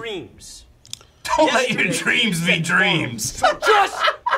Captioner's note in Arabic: يضحك